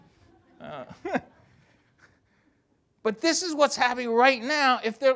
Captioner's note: laughs